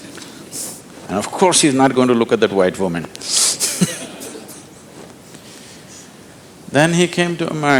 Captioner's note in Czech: Smích